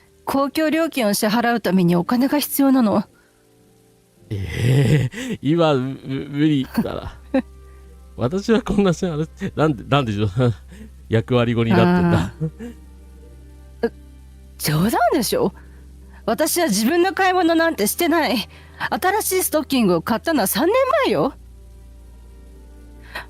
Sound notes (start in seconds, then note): 6.2 laughter